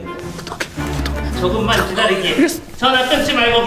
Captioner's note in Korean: 당황하는 소리